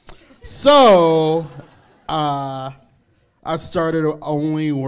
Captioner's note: crowd laughs